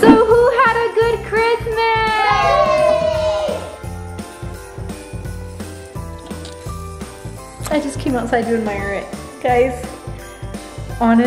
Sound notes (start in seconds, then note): 2.6 kids In Unison; 4.3 upbeat holiday music continues